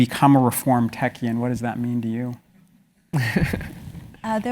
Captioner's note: laugh